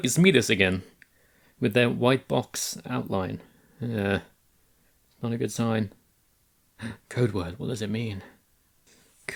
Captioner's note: gasp